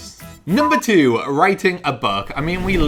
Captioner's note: beeps